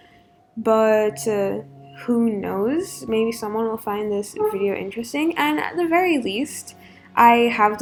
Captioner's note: chair squeak